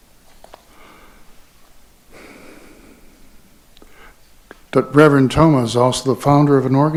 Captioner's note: inhales and exhales